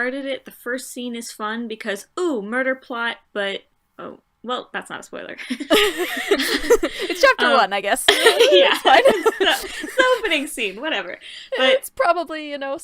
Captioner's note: laughter